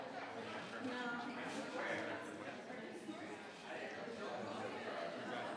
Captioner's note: crowd chattering continues